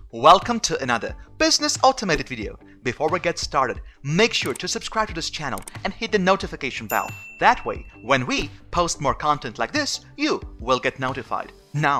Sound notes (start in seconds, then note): 6.9 bell ring